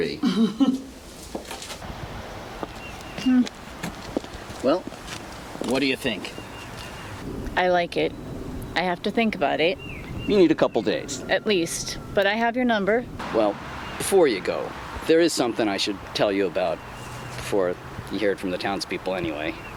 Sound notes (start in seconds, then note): 0.2 Alice laughs; 1.8 birds chirping